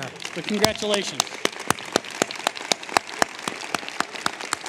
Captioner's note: applause